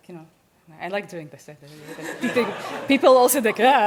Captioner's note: audience laughs